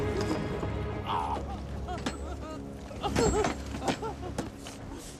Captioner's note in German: Hysterisches Lachen